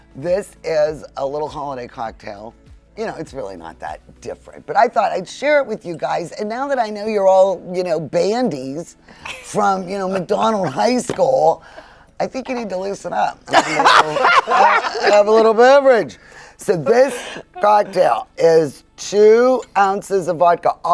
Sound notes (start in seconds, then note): 13.5 all laughing